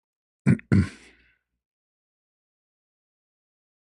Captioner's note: berdehem